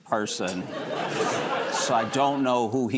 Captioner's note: laughter